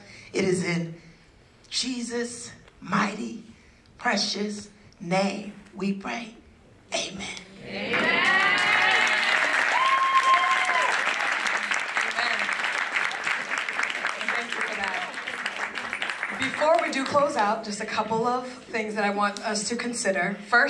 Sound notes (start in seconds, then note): 7.9 applause